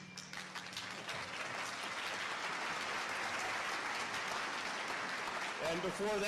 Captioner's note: applause